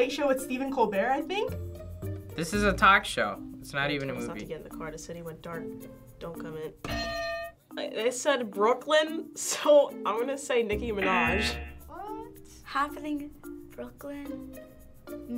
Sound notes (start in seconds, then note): 6.7 bell rings; 11.0 buzzer